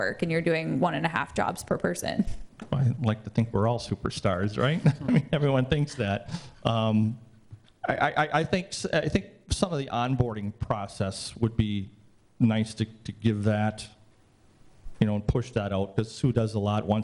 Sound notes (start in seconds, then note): 4.5 laughs